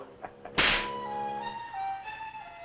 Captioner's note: chuckles; thumps